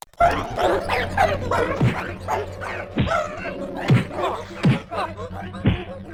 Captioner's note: furious honking